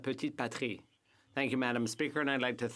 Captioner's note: speaking French